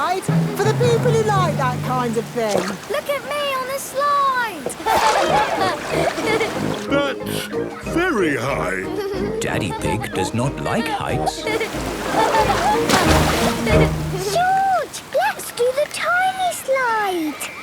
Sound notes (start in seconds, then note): 4.4 laughing; 11.3 laughing